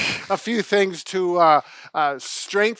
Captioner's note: both men chuckle